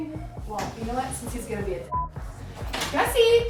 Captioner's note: beep